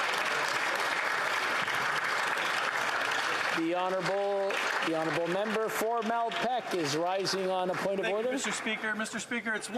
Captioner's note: applause